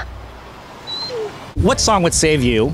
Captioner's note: dog whines